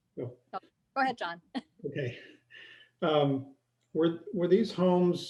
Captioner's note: laughter